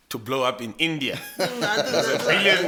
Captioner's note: laughs